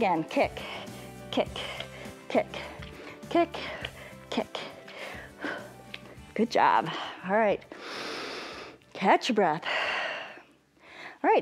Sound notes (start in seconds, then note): 7.7 inhales; 10.4 exhales